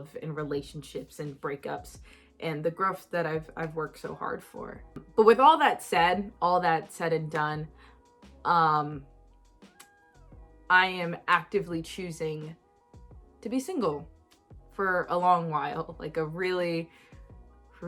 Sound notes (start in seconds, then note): 9.6 tongue pop